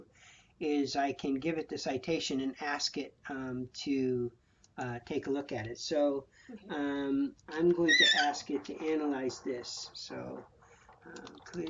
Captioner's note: typing sounds